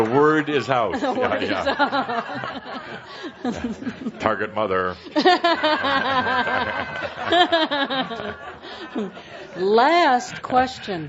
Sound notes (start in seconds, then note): 0.9 more laughter; 5.0 much laughter